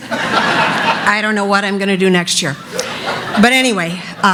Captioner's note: laughter